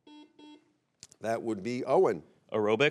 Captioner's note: buzzer beeps